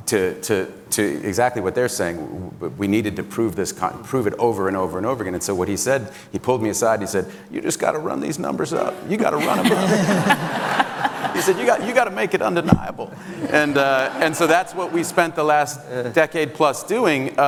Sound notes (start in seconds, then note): 9.3 audience laughs